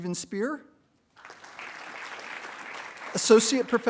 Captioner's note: attendees applauding